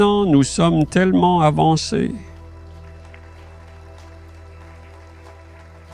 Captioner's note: applause